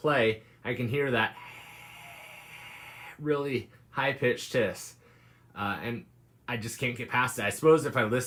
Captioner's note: hissing noise